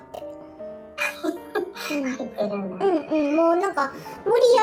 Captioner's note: laughs